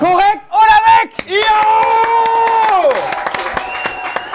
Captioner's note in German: Jubel, Applaus; Pfiffe